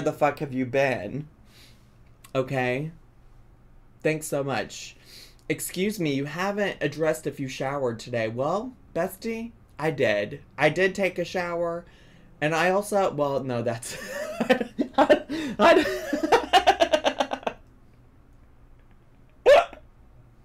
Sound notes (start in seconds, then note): 15.9 laughs